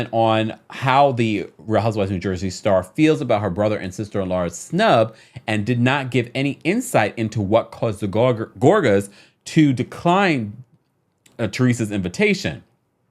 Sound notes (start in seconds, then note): none